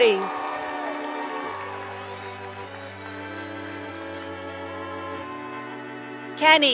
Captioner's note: applause